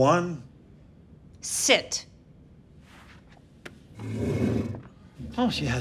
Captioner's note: chair dragging